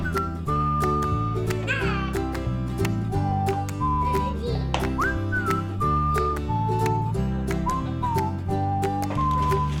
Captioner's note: melodic whistling